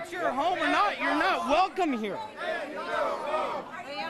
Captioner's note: crowd chanting